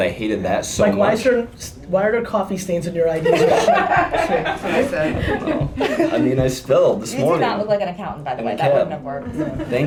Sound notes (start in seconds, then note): 3.2 laughter